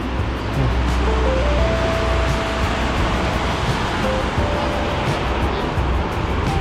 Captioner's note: wind Blowing